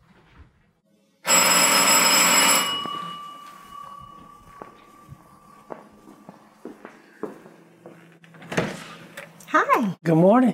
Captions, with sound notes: (doorbell ringing) (footsteps) (door opening) Hi. Good morning.